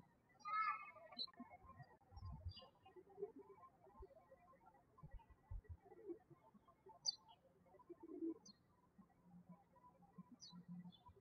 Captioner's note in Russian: птички щебечут